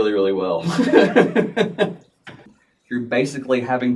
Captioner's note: laughing